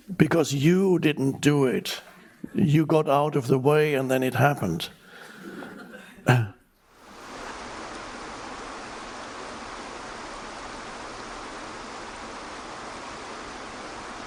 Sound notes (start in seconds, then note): 7.0 waterfall rushes